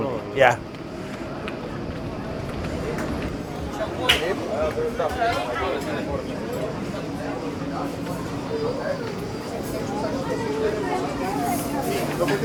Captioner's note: street Noice